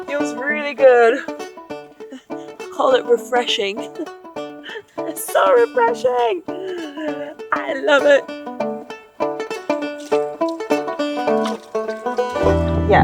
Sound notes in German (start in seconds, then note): 0.0 sanfte Instrumentalmusik geht weiter; 4.6 kichert; 9.2 sanfte Instrumentalmusik verklingt